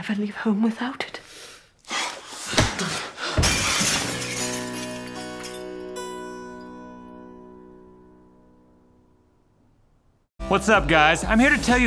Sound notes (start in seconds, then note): 3.4 glass shatters